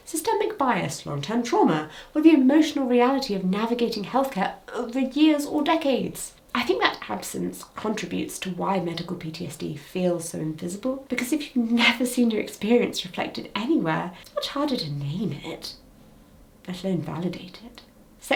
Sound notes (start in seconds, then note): none